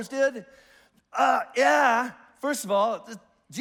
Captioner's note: exclaims in disgust